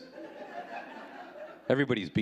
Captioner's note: audience laughing